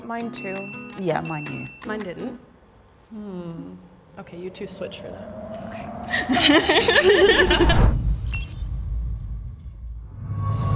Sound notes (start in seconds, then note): 6.1 all chuckles